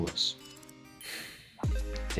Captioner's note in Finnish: huokaus